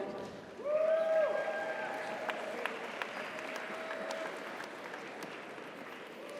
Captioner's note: audience cheers; audience applauds